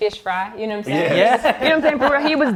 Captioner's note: laughs